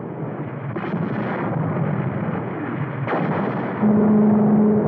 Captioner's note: guns firing